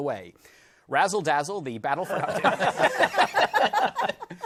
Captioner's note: laughter